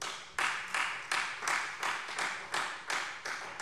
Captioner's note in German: Beifall Freie Demokraten